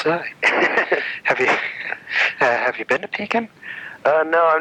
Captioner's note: laughing; laughs